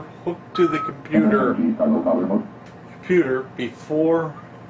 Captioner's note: machine beeps and mumbles